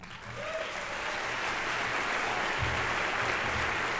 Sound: applause

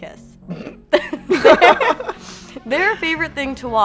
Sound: laughing

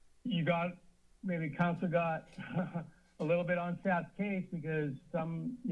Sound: laughs

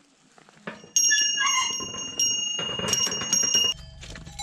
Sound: bell ringing

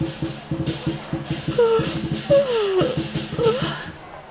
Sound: Fenghua yawns

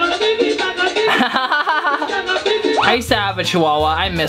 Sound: laughing

